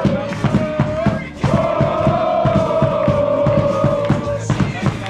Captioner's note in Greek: χειροκρότημα